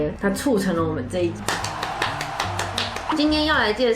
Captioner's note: applause